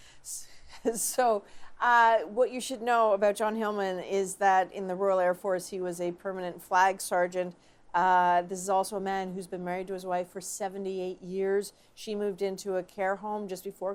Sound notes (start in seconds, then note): 0.7 laughter